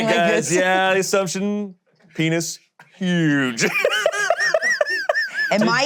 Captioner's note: laughs